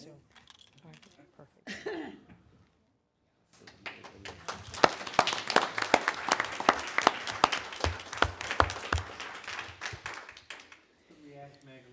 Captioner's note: applause